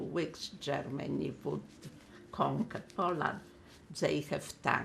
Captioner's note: wiping nose